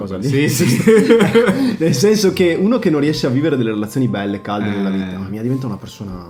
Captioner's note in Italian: risate